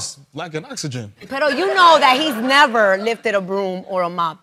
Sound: spanish

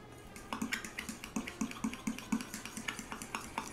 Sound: stirring

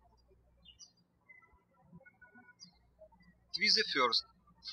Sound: birds chirping

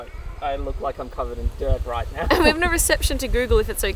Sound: laughing

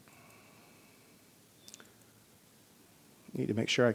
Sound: mouse clicking

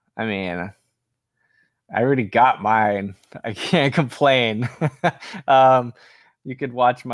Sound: laughs

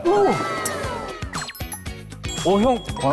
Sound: ding

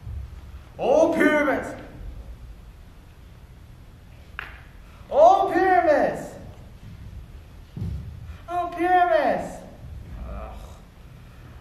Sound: progressively tries to make his voice higher

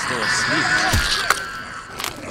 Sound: zombie hissing; flesh squelching

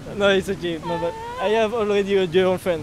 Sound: Thailand language

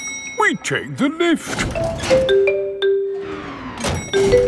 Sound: elevator dings

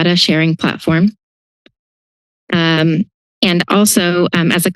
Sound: pause

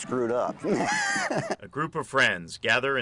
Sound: laughter

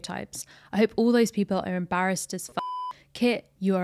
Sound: beep

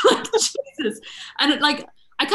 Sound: laughing

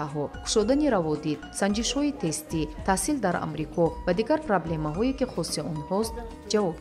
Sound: journalist narrating in tajik

